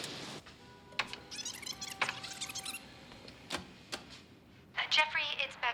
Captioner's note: answering machine squeaks